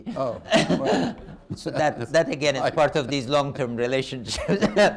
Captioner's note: laughter